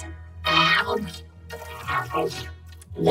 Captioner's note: slurping